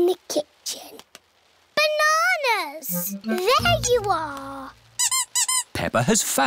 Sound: squeaking

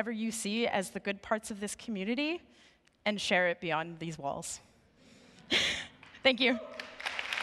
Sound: applause

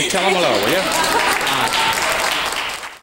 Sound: audience clapping

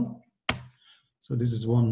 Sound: clicks

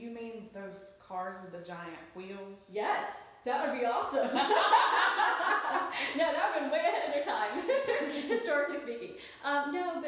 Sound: laughs

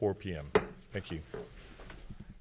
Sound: hits gavel

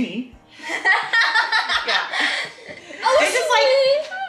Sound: laughing

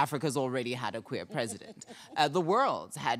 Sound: panelist chuckling

